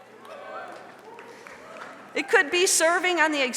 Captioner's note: audience member claps